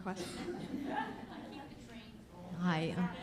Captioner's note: laughter